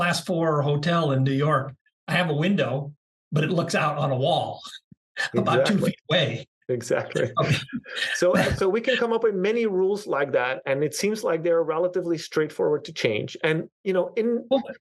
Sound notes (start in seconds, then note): 7.1 laugh